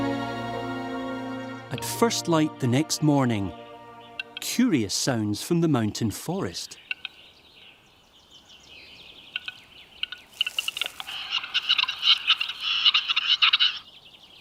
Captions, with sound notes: At first light the next morning, curious sounds from the mountain forest. [low clicking] [chattering]